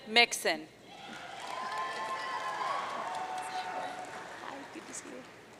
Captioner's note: audience cheering